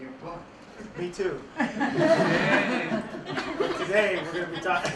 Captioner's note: laughter